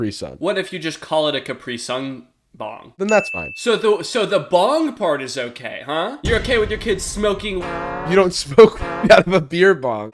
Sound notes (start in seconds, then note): 3.1 ding; 6.2 explosion; 7.4 synth chord